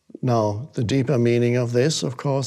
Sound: none

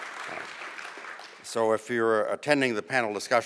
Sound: applause

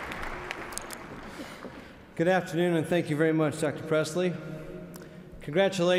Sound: applause

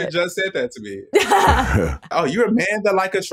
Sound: laughs

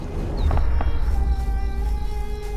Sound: rumble

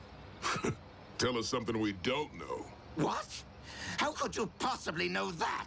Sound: chuckles

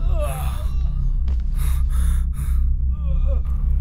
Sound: none

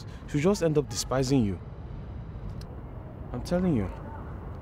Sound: none

